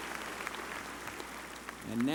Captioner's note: applause